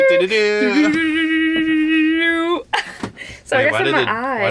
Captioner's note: triumphant noise